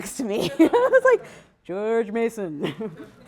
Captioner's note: laughter